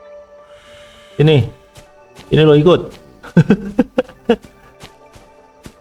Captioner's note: laughs